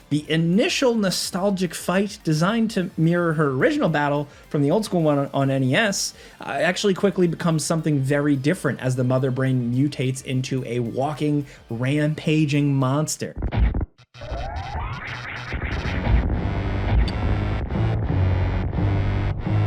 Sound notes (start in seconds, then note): 14.2 laser charging; 15.5 dramatic music